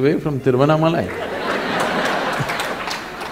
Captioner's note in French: Rires / Applaudissements